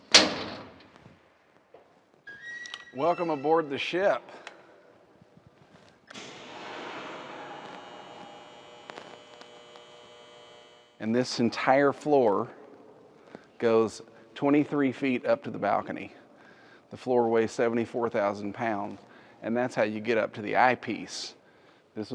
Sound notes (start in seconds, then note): 0.2 door clatters, squeaks; 6.1 roof door clicks, buzzes